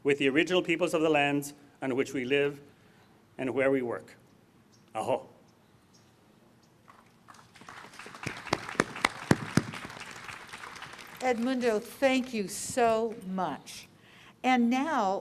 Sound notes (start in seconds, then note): 6.9 applause